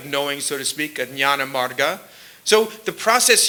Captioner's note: sanskrit